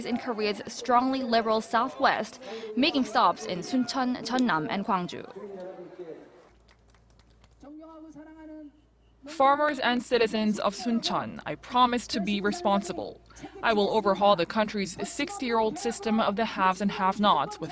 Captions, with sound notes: in Korea's strongly liberal southwest,... making stops in Suncheon, Jeonnam and Gwangju. (Korean) "Farmers and citizens of Suncheon, I promise to be responsible. I will overhaul the country's 60-year-old system of the 'haves' and 'have nots' with